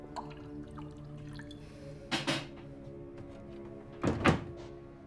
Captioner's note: whiskey glugging; closer door thuds